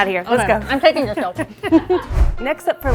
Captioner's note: laughs